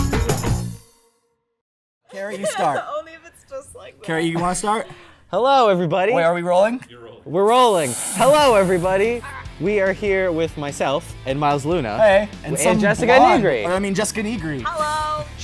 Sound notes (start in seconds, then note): 2.2 laughing